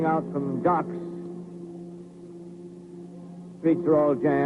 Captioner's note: distant boat whistles